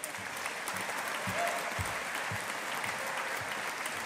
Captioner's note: audience applauding